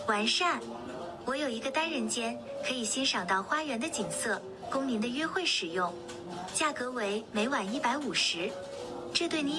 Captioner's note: non-english